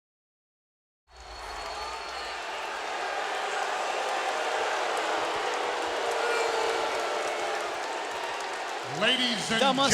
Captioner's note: applause